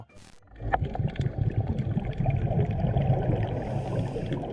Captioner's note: water gurgling